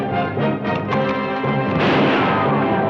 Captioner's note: gun cocks; gun fires